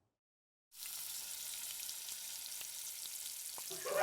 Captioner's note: sound of frying pan sizzling; audience laughing